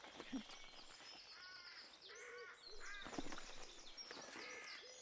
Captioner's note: birds chirping